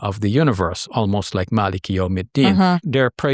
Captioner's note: speaking Arabic